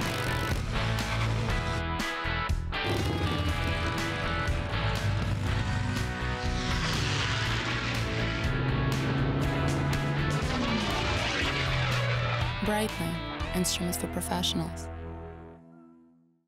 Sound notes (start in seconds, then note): 0.0 motorcycle engine revving; 7.2 engine roaring